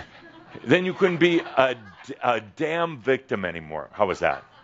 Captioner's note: some chuckles